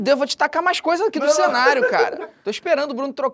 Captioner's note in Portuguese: risadas